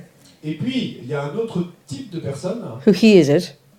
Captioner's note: French